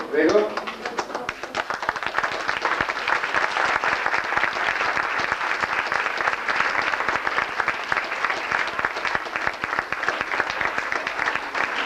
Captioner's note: applause